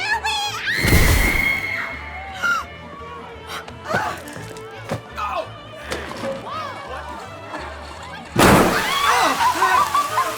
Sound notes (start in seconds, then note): 0.3 gasps; 0.3 screams; 8.3 bang; 8.6 screams